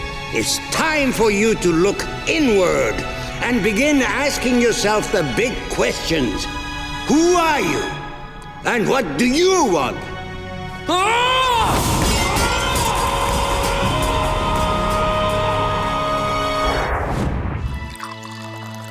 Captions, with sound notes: It's time for you to look inward, and begin asking yourself the big questions. Who are you and what do you want? [groaning] [echoing]